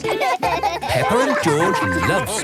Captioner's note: both laugh